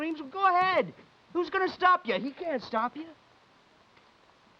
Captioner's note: none